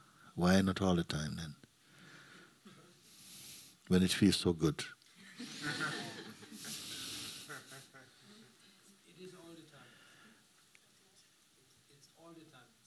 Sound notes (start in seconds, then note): 5.2 laughter